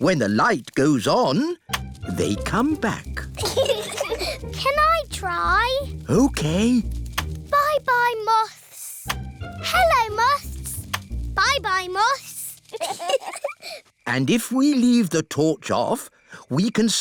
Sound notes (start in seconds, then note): 3.4 peppa and george giggle; 12.7 both giggle